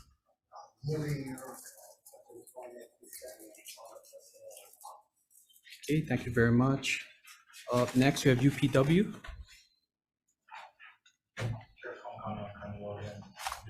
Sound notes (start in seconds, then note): 0.8 speaker speaks away from mic